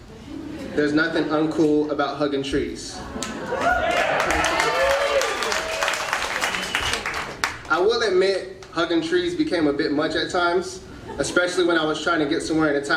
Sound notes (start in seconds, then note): 0.1 audience laughing; 3.2 audience cheering